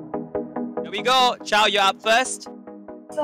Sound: none

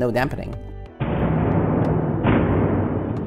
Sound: rig booms

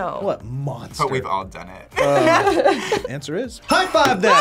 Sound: both laugh

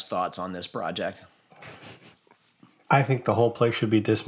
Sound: chuckles

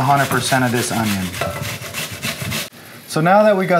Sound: scraping

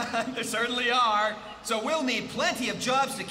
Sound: chuckling

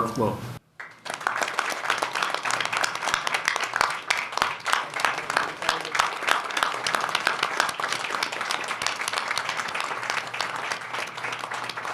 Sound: applause

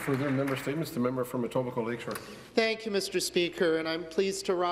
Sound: some applause

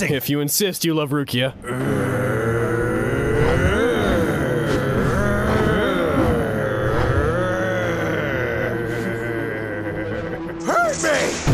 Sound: intense anime grunting

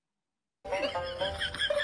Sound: chuckling

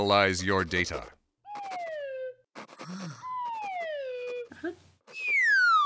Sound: sandwich whizzing

